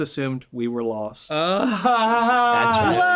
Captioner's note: laughing